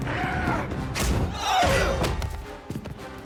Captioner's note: shouting